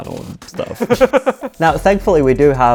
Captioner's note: laughing